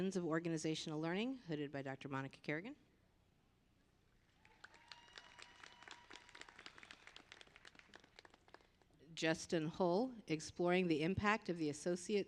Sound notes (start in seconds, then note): 9.2 applause